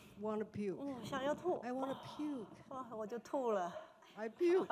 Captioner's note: speaking Mandarin